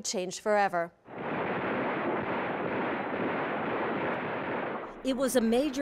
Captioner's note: gunfire